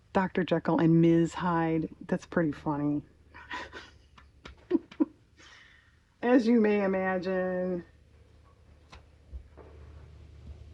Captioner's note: laughs